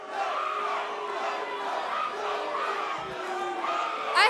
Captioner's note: fans chanting